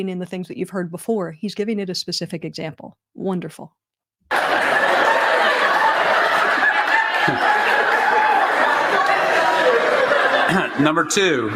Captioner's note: laughter